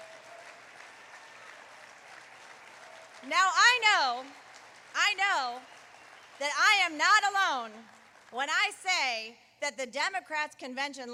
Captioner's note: applause